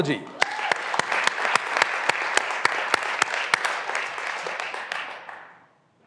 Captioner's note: graduands cheering and applauding